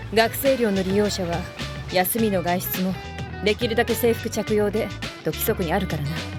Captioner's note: none